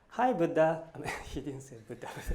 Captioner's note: laughs